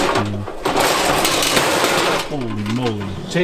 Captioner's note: metal clanking